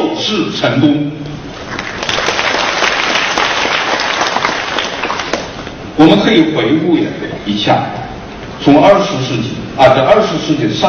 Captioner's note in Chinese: 掌声